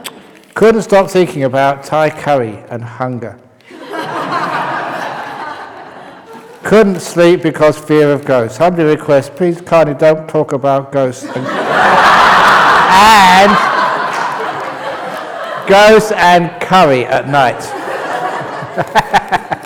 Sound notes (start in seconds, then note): 3.6 laughter; 11.3 roaring laughter